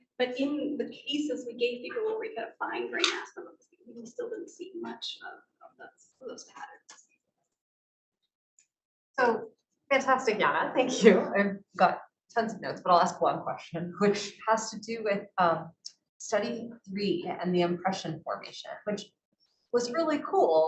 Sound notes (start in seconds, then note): 10.7 speaking faintly